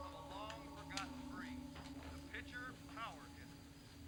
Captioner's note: sound from tv